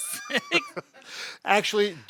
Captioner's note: both laughing